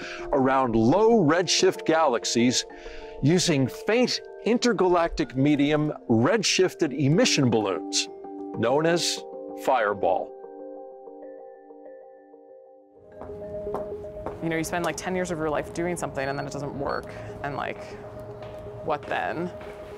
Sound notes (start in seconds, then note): 10.4 soft music; 14.1 loud footsteps